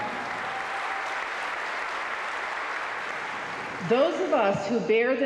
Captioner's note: crowd clapping